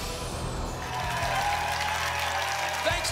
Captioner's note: applause and cheering